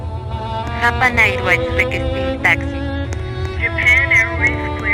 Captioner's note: speaking Spanish